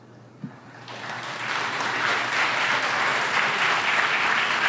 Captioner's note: audience applauds